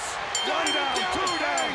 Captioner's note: bell ringing